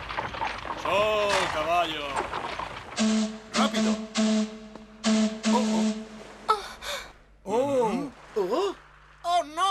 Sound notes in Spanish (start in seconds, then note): 5.0 silbato